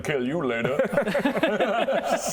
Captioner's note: politely violent laugh